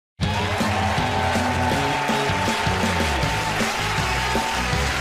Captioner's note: cheers and applause